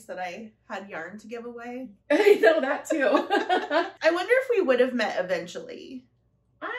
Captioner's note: laughter